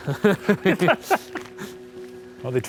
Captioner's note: both laughing